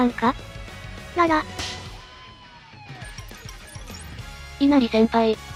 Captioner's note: smack!!